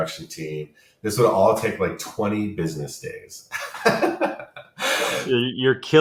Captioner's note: laughs